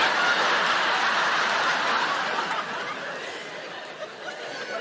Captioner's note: audience laughing